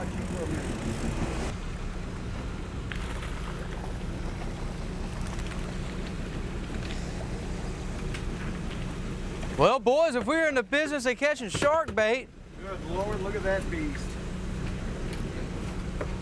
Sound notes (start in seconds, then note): 2.9 fish splashes